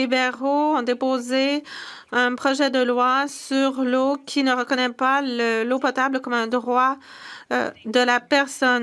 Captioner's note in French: voix de l'interprète